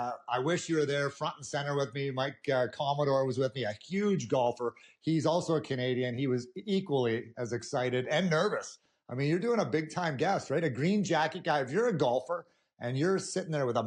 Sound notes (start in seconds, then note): none